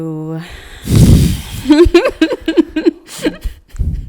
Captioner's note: laughing